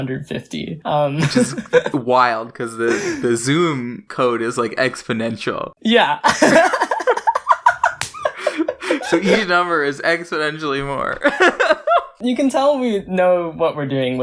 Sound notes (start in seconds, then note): 0.0 both laugh; 1.2 laughs; 6.2 both laugh; 7.8 slap sound; 11.2 laughs